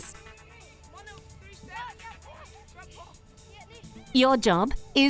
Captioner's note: kids yelling